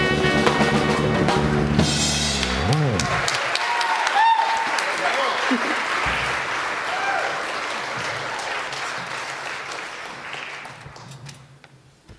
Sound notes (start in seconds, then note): 2.4 applause